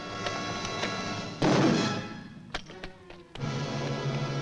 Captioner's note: pole bangs